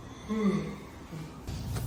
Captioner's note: yawn